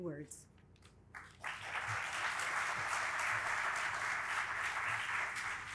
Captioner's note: audience applauding